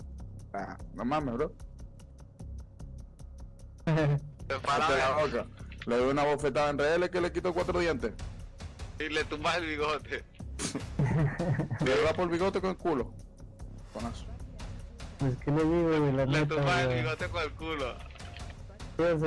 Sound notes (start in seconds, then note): 15.3 laughs and jokes